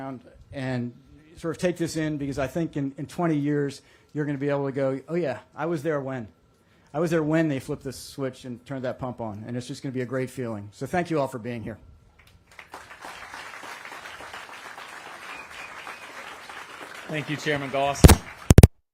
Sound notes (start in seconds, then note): 12.2 applause